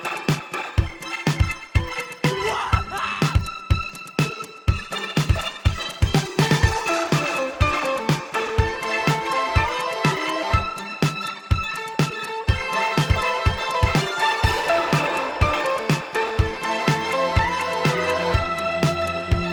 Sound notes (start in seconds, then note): 2.3 shouts; 3.4 upbeat music